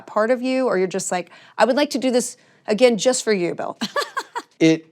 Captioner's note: laughs